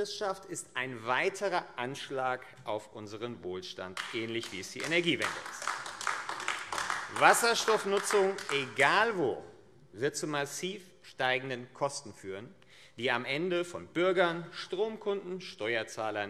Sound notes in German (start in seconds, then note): 5.7 Beifall AfD